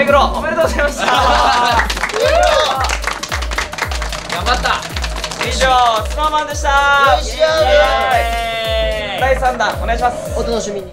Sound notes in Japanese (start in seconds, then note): 1.0 拍手